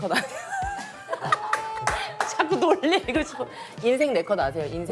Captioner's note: laughing for no reason